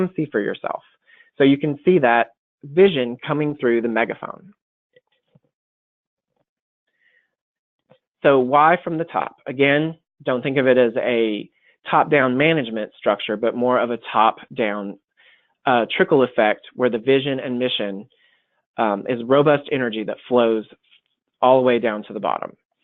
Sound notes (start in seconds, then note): 4.7 silence